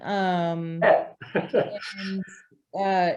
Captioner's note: laughs